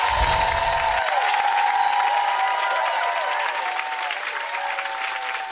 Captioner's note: applauding and cheering